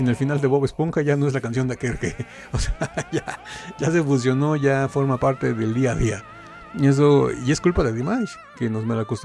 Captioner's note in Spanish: risas